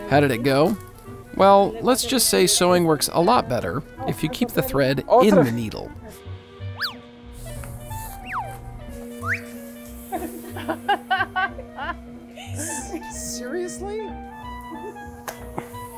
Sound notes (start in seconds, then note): 10.1 laughter